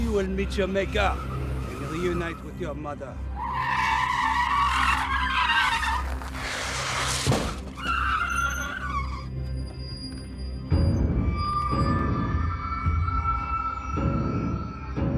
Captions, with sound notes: Now you will meet your maker and reunite with your mother. [brakes screeching] [eerie music]